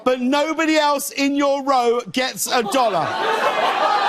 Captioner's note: laughter and gasps from audience